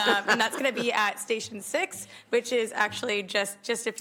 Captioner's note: laughter